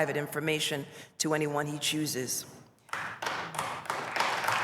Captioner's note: applause